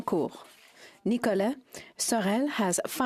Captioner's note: speaking French